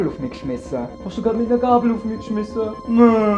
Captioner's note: mocking